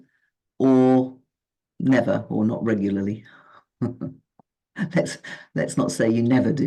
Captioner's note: giggling